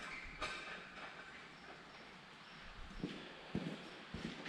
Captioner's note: bolt squeaking